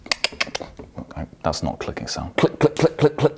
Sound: clicks tongue

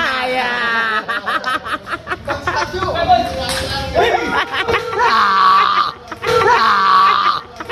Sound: laughter

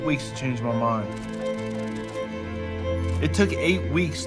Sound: pictures rustling

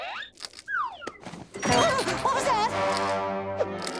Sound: creaking

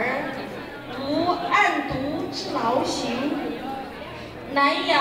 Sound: speaking in Mandarin

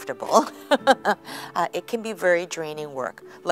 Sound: laughter

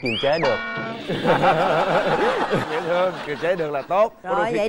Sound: laughter

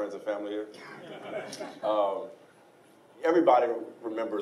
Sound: laughing

